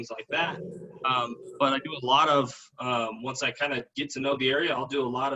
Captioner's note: rumbling sound